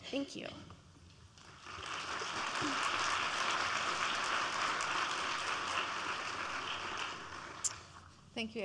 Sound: applause

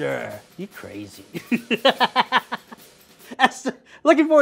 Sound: laughing

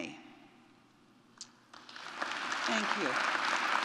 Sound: audience clapping

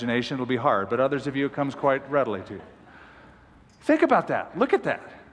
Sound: laughter

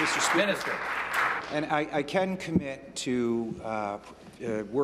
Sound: applause

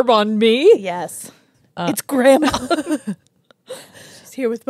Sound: laugh

